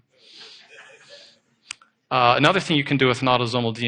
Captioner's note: audience laughing